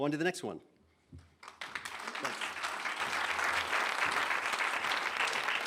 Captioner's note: applause